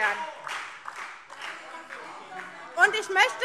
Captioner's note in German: Beifall SPD - Zurufe